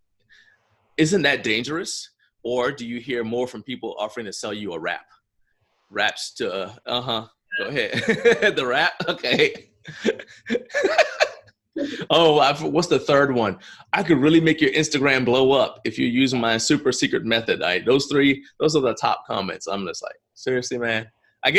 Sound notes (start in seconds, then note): 9.9 laughs